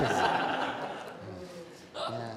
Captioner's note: laughter